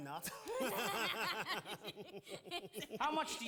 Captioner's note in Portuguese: Lola and Lauren laughing